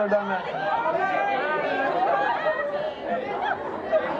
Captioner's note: audience yells